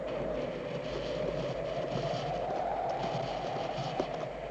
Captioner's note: hooves clattering